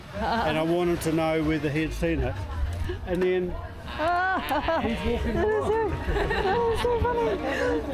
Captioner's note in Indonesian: tertawa